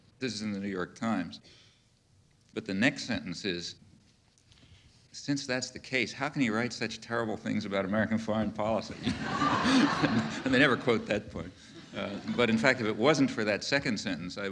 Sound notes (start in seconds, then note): 8.9 audience laughing; 9.0 Noam laughing